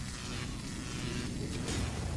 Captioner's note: logo buzzing; logo crackling; logo booming